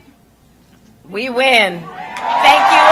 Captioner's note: applause